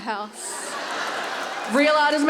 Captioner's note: laughter